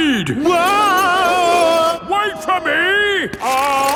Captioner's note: yelling